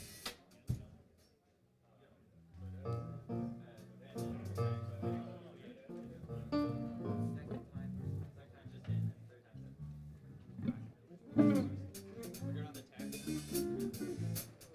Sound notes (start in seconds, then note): 3.6 chatter; 6.0 musical instruments tuning up